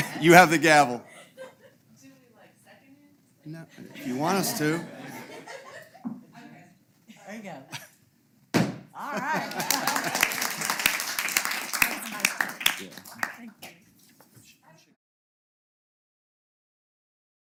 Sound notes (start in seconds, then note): 4.6 laugh; 9.3 applause